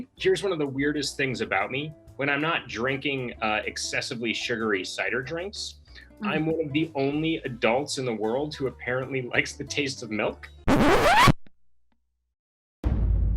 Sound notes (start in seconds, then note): 10.6 record scratch